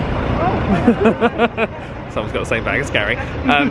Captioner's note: laughing